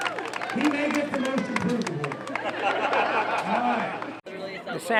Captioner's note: laughter